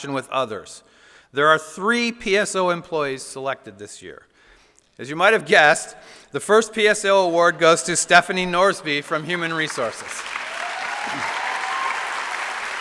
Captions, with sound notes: with others. There were three PSO employees selected this year. As you may have guessed by now, the first PSO award goes to Stephanie Norsby, from Human Resources. (Applause.)